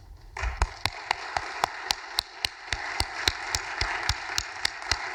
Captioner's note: audience applauding